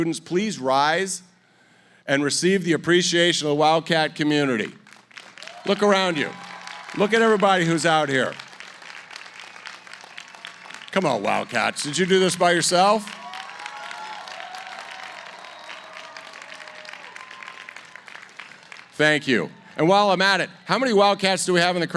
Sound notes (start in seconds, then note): 14.0 applause